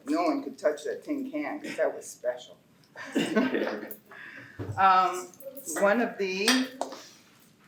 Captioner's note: laughter